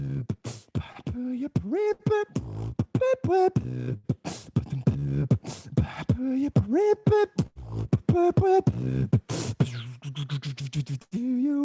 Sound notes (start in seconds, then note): 3.2 beatboxing; 8.4 beatboxing